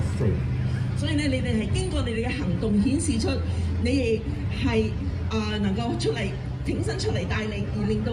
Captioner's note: speaking foreign language